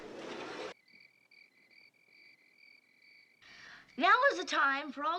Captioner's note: crickets Chirping